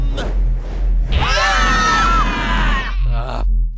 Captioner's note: screams